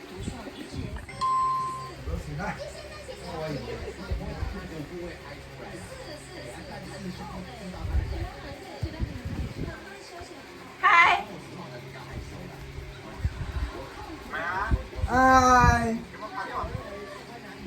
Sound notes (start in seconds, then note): 1.0 WeChat phone ringing